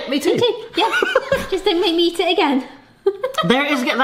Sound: laughs

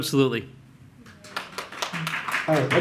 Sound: audience applauds

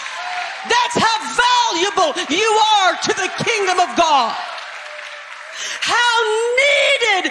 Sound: applause

